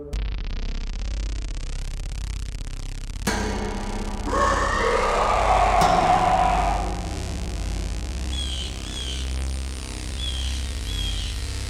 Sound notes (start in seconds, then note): 0.2 pensive music; 4.2 creature growls; 8.2 bird calling